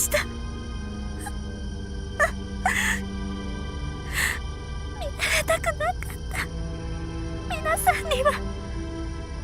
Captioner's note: more tears